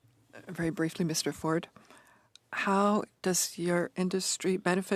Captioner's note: speaking French